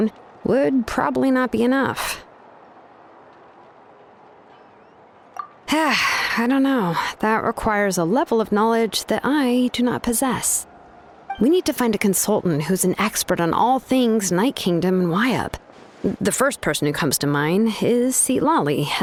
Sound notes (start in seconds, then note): 6.0 sigh